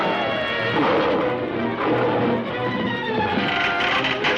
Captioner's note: gorilla roars